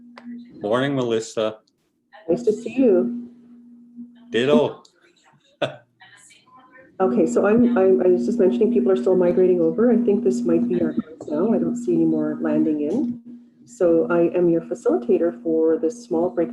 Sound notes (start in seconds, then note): 8.5 foreign language